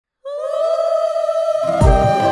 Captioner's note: ululating